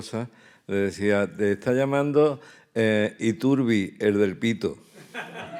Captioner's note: speaking in Spanish; audience laughing